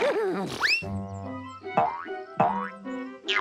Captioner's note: boing boing